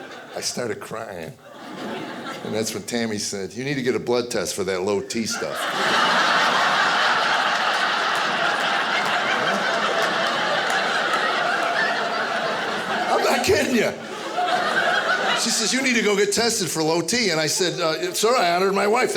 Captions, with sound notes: I started crying. (audience laughing) And that's when Tammy said, "You need to get a blood test "for that low T stuff." (audience laughing) I'm not kiddin' ya. (audience laughing) She says, "You need to go "get tested for low T." Sir I honored my wife,